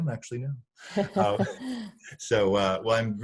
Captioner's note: chuckling